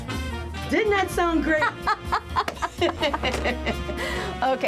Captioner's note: laughs